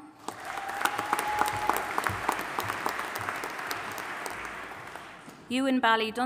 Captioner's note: audience applauding and cheering